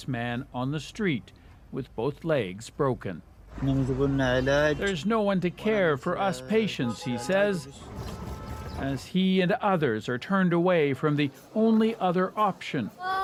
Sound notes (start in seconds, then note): 4.7 speaking alternate language